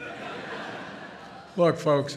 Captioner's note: laughter